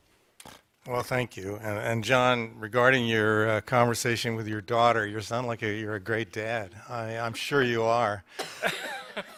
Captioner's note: laughter